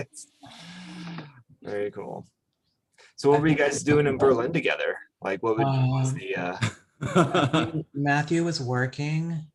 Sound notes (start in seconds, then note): 7.0 laughs